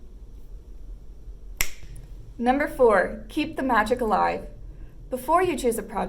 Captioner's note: snap